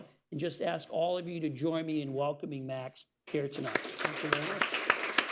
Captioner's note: applause